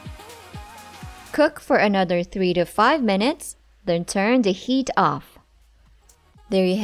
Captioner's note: stove clicks